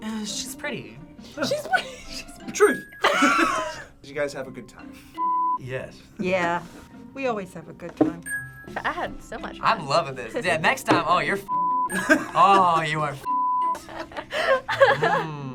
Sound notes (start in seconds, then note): 3.0 both laugh; 3.0 laughs; 13.7 laughs